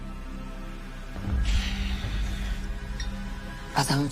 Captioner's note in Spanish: Suspiro